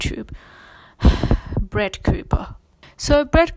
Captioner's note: sighs